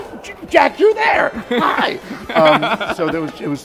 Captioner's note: laughs